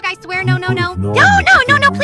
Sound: panics

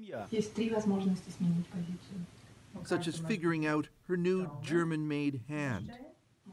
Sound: speaking russian

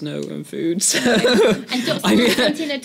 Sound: laugh

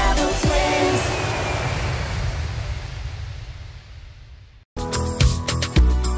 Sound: plane engine roaring; cheerful music

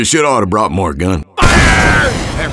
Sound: sounds of rocket launcher

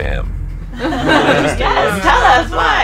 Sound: everyone laughs

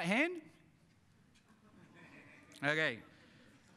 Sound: audience laughing

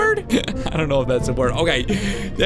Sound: laughs

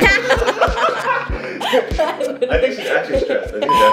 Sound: everybody laughing; laughing

